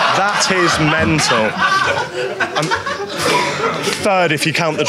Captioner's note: audience laughing; audience laughs